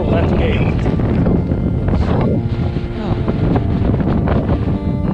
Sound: wind whooshing

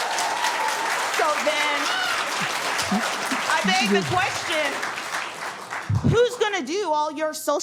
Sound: cheering and applause

